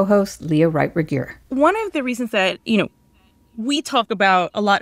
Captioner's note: soundbite of archived recording